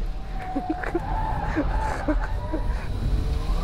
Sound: laughs as he overtakes the Fiat

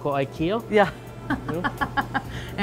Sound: laughs

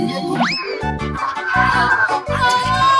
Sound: distant screaming

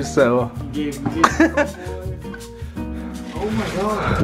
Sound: laughing

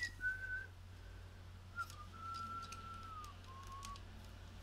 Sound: whistles while looking for on button

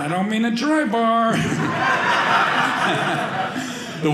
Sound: audience laughing

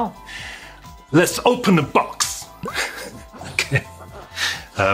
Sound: laughs

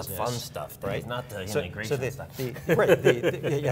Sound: laughing

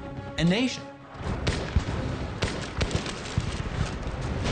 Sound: shots cracking

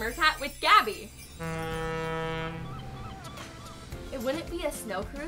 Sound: ship horn sound

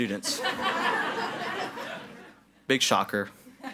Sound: audience laughs

